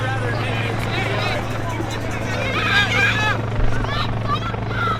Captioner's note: helicopter whirs